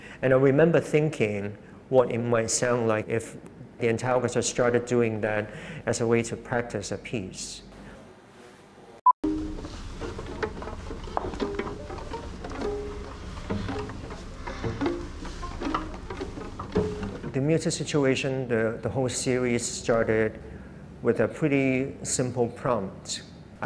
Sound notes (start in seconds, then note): 9.7 footsteps and muted plucking